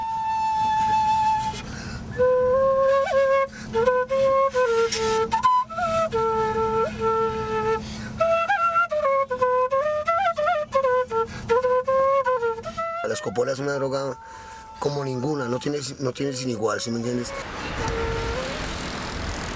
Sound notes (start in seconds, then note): 13.2 speaking foreign language